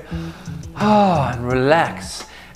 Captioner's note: sigh